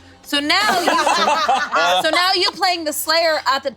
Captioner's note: everyone laughing